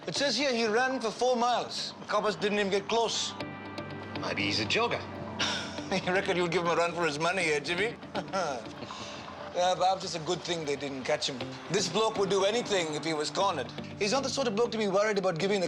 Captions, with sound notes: It says here he ran for four miles. The coppers didn't even get close. - Maybe he's a jogger. - I reckon you'll give him a run for his money, eh Jimmy? (laughs) It's a good thing they didn't catch him. This bloke would do anything if he was cornered. He's not the sort of bloke to be worried about giving